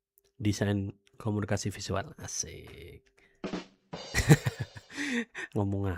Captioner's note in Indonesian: tertawa